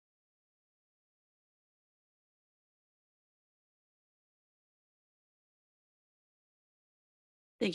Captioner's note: a moment of silence